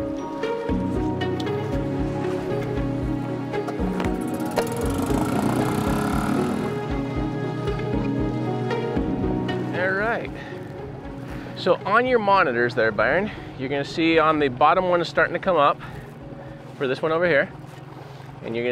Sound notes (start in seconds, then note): 0.2 pulsating music continues; 3.7 engine roars